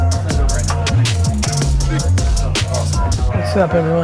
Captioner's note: office workers chatting